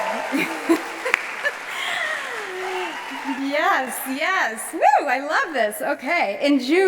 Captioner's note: applause